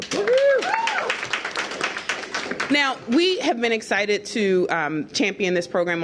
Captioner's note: applause